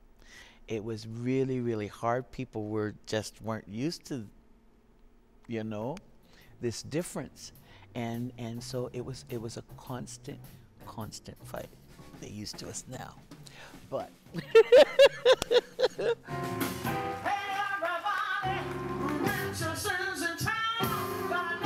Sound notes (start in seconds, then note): 14.3 laughs